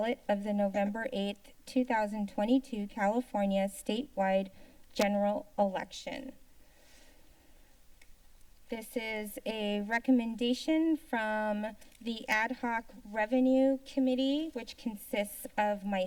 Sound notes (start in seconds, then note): 6.2 silence